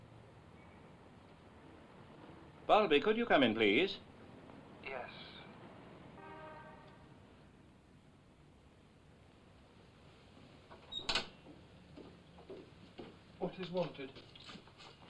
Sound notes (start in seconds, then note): 10.7 door opens